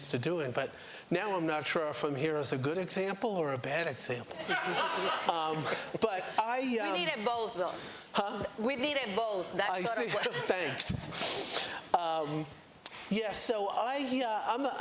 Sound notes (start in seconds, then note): 4.4 laughter